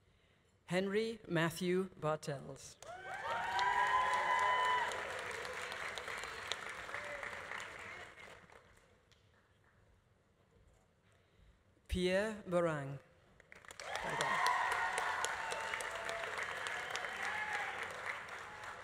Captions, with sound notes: Henry Matthew Bartels. (audience applauding) (audience cheering) Pierre Beaurang. (audience applauding) (audience cheering)